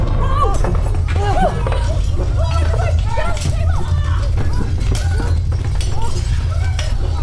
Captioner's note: earthquake sounds